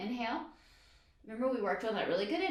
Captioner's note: inhales deeply